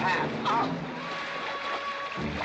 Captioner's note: scoffing